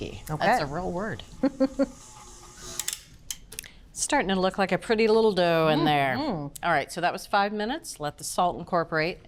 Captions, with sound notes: -Okay. -That's a real word. -[ Chuckles ] -Starting to look like a pretty little dough in there. -Mm-hmm! -Alright, so that was five minutes. Let the salt incorporate,